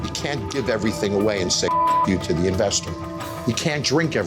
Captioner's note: beep